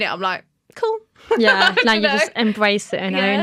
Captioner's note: laughter